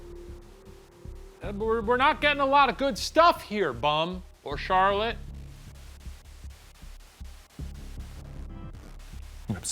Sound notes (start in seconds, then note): 4.7 white noise; 6.1 suspenseful music